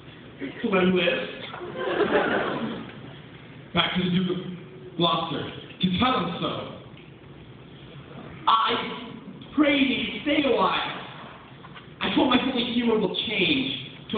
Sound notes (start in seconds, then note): 1.5 laughter